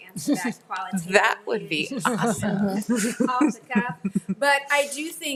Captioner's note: group laughs